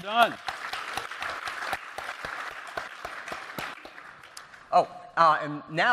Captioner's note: applause